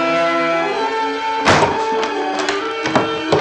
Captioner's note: door slams